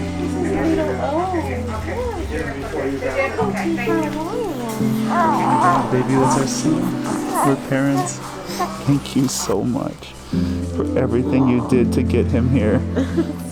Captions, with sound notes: (baby cooing) - Baby, he's so smooth. We're your parents. Thank you so much, for everything you did to get him here.